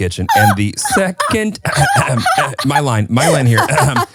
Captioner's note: chuckling